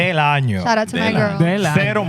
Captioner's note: speaking Spanish